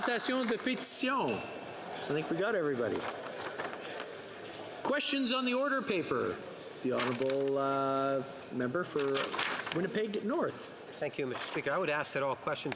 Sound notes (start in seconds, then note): 2.6 speaking French